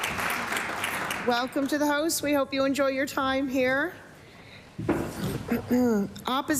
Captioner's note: applause